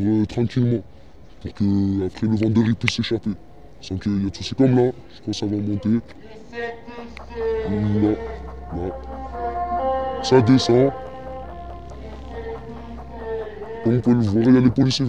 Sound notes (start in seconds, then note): 8.8 distant emergency siren; 11.3 tense sounds